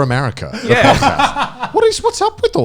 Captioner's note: laughing